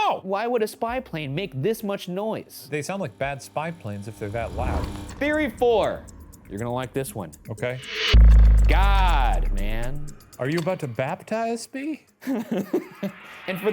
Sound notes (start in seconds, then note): 7.0 clock ticks; 10.4 slide projector clicks; 12.2 giggles